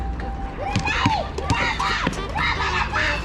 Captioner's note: the sound of cheering from the younger brothers